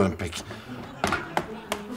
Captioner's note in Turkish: Gülme efekti